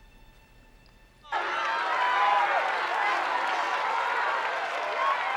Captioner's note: crowd cheering